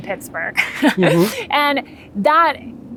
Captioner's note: laughing